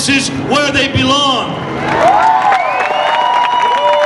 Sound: audience cheers

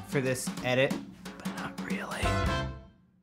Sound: whispering

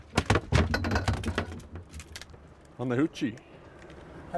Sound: fish flopping

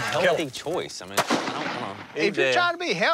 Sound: gun shot

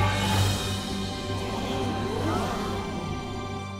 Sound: gasping

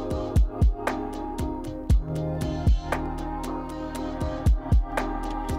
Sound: air whooshing

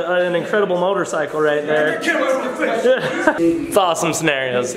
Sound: laughs

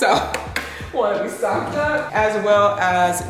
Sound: hand tapping

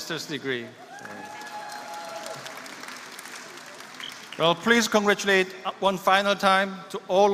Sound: applause

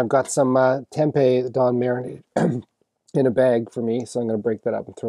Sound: clears throat

